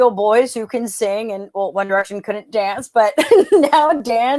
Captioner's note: laughs